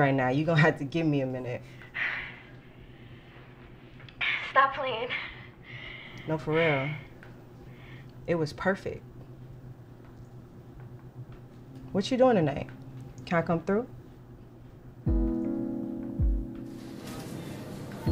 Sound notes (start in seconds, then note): 1.7 deep breaths; 15.0 subdued music